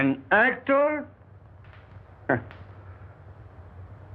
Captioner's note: scoffing